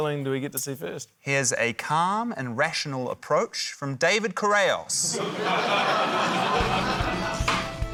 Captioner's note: laughter; frantic polka music